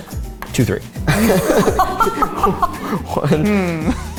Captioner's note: laughing